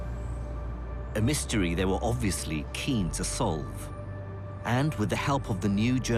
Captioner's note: voiceover